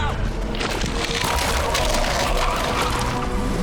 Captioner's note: tires screeching